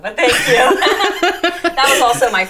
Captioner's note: laughing